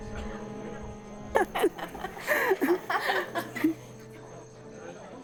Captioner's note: laughter